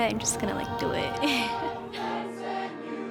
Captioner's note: laughs